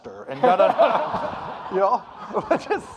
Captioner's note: audience laughing